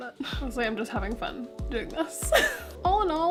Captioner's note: laugh